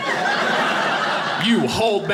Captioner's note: audience laughing